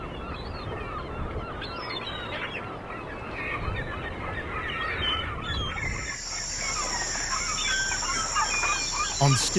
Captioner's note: birds chirping